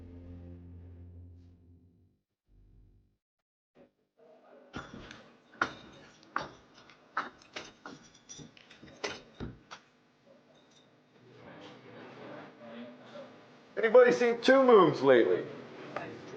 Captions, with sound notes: (cheerful fiddle music) (background people chattering) - Anybody seen Two Moons lately?